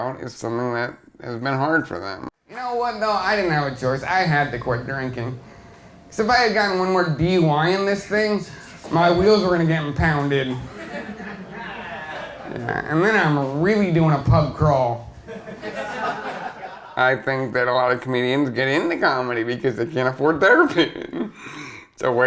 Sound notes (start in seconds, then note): 10.1 crowd laughs; 14.6 crowd laughs; 20.5 laughs